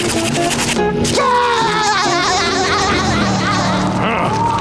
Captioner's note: laughing